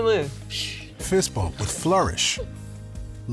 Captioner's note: laughing